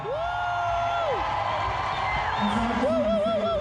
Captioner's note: crowd roaring